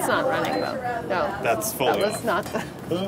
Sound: machine beeping

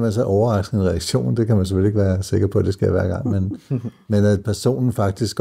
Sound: laughs

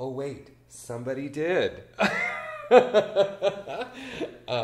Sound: laughs

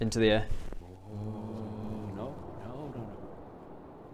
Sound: terrified whispers

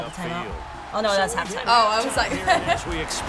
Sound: chuckles

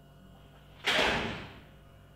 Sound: door closes

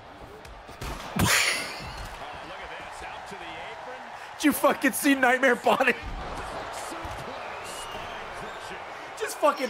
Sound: laughs

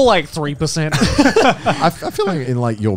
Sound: all laughing

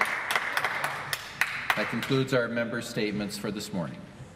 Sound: applause

